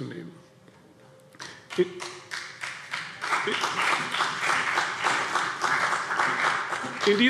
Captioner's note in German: Beifall CDU und BÜNDNIS 90/DIE GRÜNEN